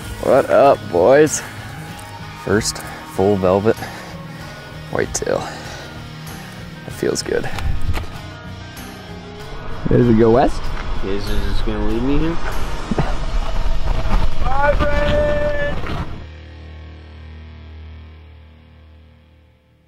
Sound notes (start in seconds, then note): 14.5 man Yelling